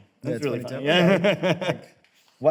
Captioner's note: both laugh